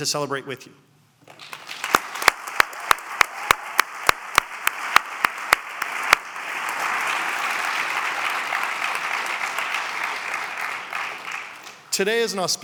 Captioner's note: applause